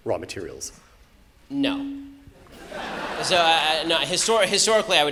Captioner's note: audience laughter